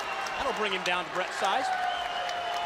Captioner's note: crowd cheering